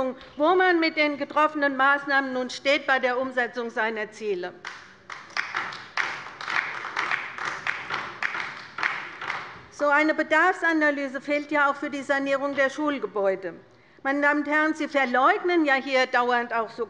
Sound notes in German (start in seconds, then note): 4.6 Beifall bei der LINKEN